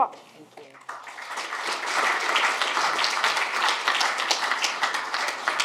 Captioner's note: audience applauds